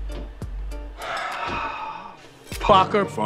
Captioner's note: sighs